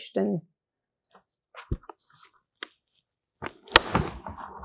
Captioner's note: pauses 6 seconds